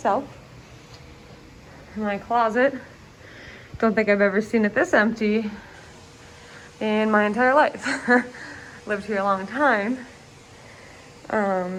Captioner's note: chuckles